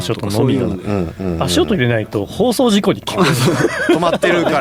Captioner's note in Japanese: 笑い